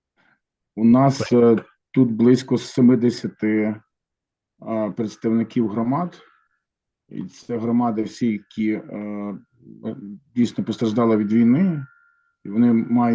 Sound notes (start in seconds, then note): 0.8 non-english speech